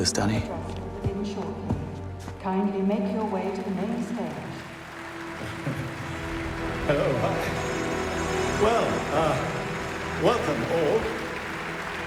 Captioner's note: applause